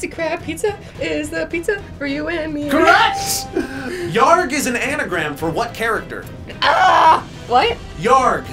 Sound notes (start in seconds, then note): 2.8 electronic bell chimes